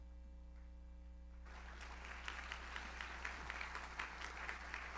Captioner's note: audience applauds